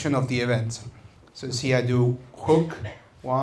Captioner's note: breath